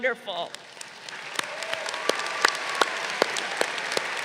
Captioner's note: crowd cheering